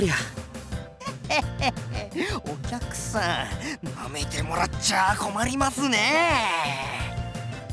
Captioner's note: chuckle